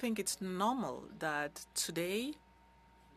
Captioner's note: speaking French